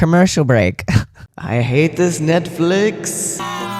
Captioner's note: echoing